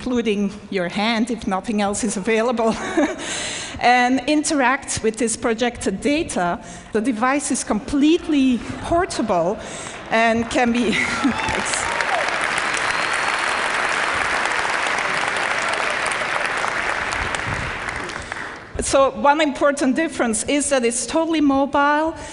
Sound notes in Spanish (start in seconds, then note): 9.8 Aplausos